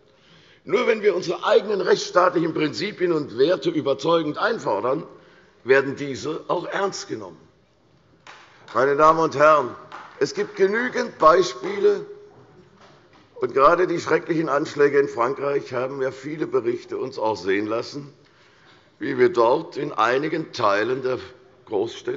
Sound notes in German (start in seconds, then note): 8.2 Beifall bei der CDU und dem BÜNDNIS 90/DIE GRÜNEN